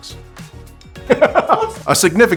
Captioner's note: laughs